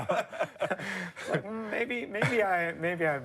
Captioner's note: laughter